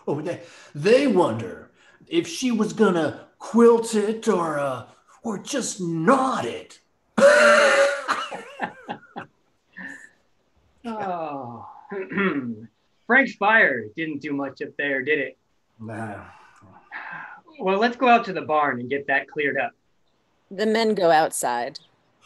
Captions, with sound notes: - They wonder if she was going to quilt it or just knot it! (laughs) - Frank's fire didn't do much up there, did it? Well, let's go out to the barn and get that cleared up. - The men go outside.